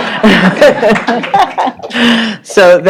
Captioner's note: laughter